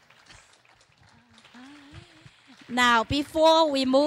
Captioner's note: clapping